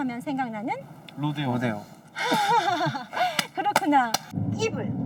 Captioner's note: laughs